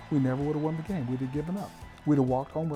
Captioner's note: cheering